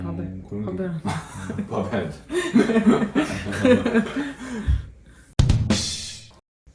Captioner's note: laughing